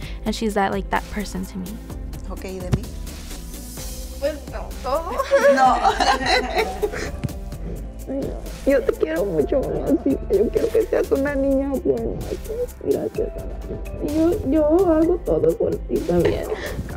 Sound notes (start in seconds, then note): 2.0 Eileen's grandma speaks in foreign language; 3.9 speaks in foreign language; 5.1 Eileen's grandma laughs; 8.2 Eileen's grandma speaks in foreign language; 12.4 speaks in foreign language